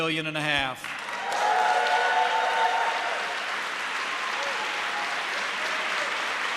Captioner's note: applause